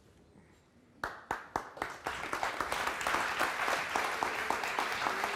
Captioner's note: audience applauds